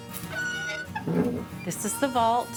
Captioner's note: soft western music; door creaking